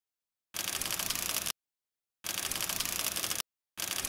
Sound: typewriter clicking

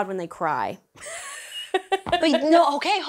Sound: laughs

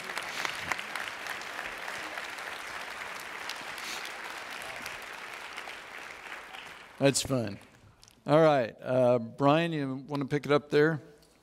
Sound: audience Applauds

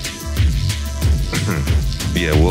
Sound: clears throat

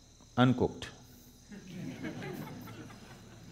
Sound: laughter

